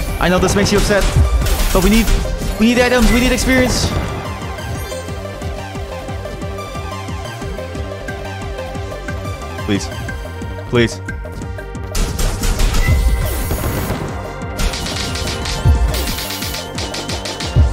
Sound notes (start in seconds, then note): none